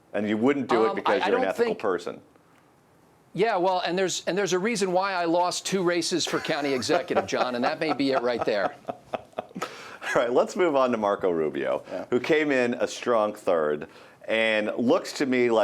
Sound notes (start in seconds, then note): 6.2 laughs